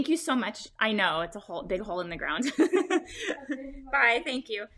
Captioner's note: laughs